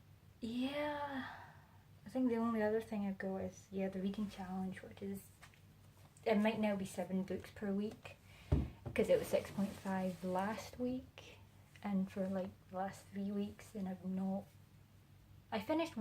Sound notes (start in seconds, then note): 8.5 notebook thumping